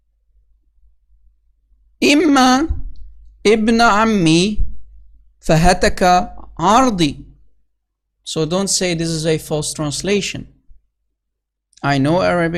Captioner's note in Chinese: 念阿拉伯语